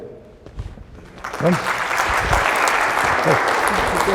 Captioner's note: applause